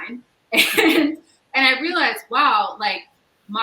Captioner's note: chuckles